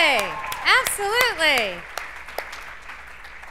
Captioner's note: cheers and applause